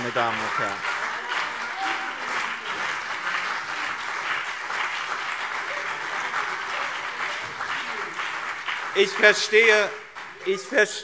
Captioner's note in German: Beifall BÜNDNIS 90/DIE GRÜNEN und CDU